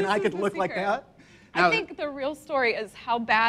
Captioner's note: laughs